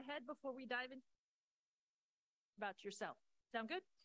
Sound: muted

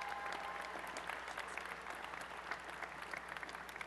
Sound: applause and cheering

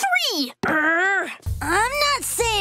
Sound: groaning

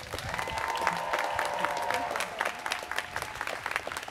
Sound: students cheering

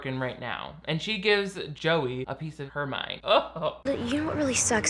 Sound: laughs

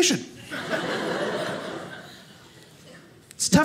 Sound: audience laughing

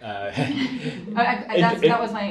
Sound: group laughing

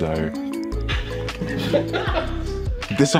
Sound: laughter

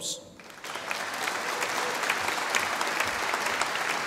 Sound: audience applauding

